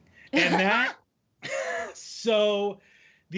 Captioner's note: laughing